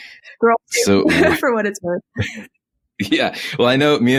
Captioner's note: both laugh